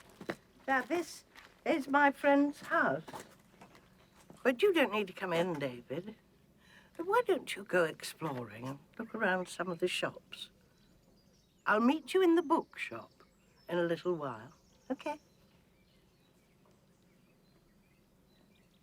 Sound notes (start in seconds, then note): none